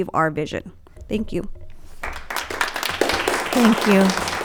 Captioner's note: audience clapping